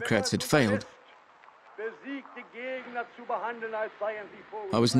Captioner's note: German spoken audio